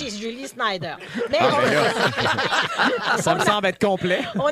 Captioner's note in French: rires